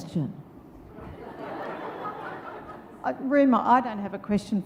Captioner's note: audience laughs